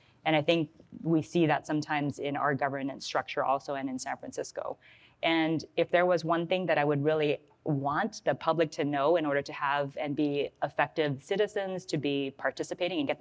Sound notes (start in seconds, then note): none